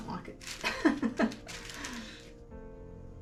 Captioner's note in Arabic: يضحك